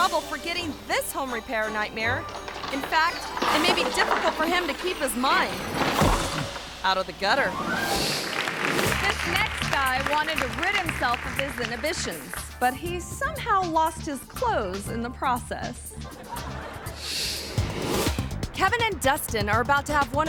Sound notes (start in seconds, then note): 5.7 person thuds; 7.4 screen whooshes; 15.9 audience laughing